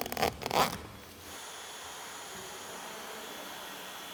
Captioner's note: soft whirring